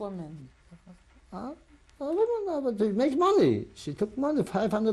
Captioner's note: sighs